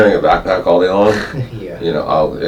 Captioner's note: laughs